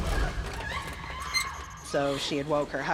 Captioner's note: woman screaming